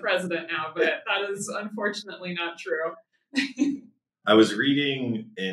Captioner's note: laughs